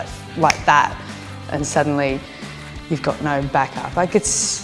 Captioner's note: snaps fingers